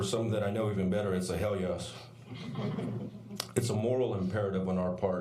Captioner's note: laughter